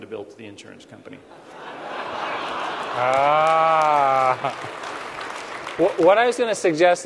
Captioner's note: laughter